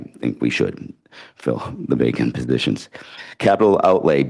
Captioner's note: laughs